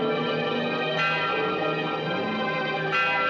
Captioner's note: bell Continues